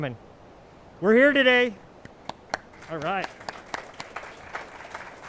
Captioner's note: clapping